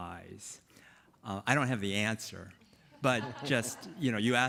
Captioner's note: panelists chuckling